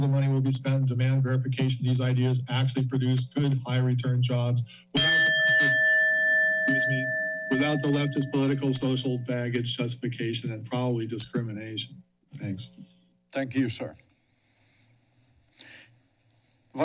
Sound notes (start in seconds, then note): 4.9 bell rings